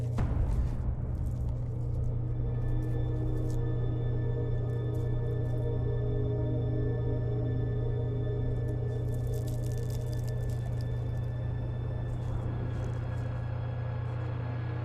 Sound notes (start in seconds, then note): 0.1 tense music; 9.0 sprinkles rattling; 11.8 dramatic music